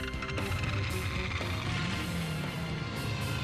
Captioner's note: revs engine